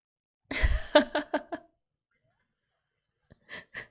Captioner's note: laughs